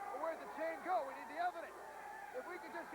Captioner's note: crowd cheering